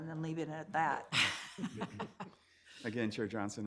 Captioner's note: everyone laughs